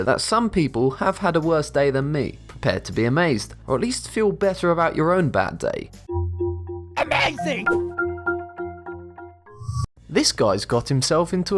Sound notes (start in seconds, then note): 6.0 futuristic music; 8.0 cartoon Voice